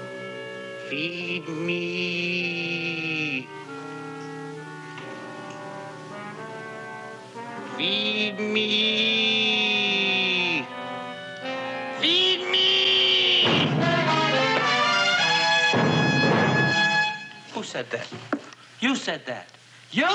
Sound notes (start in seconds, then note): 12.7 dramatic music; 13.6 thudding